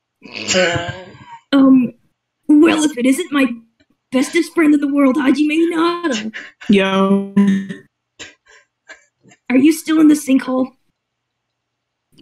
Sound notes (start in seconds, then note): 0.6 wheeze laugh; 4.2 glitching